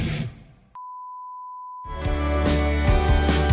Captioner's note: beep; upbeat music